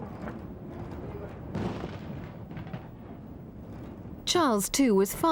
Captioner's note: fireworks exploding